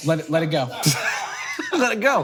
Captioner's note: Hank chuckles